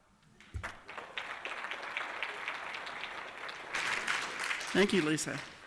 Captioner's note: applause